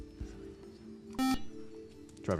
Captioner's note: beep